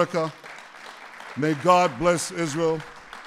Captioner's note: applause